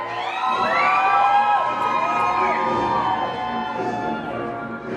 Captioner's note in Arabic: هتاف الجمهور وصراخه